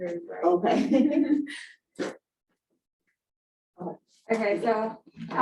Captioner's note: women laughing